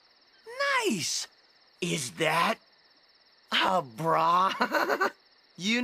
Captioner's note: laughing